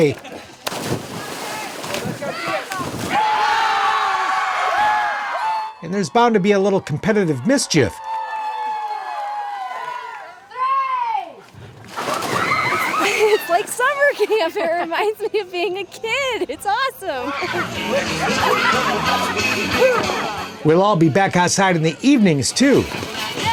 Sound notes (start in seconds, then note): 0.0 water splashing; 0.2 people cheering; 8.2 people cheering; 11.4 water splashing; 16.6 country music